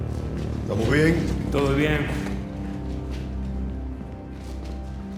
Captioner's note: spanish